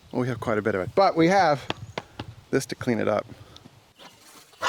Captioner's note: knocks